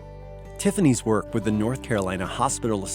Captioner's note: voiceover